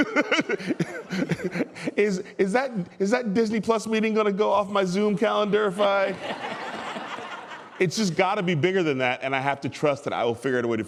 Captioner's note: laughter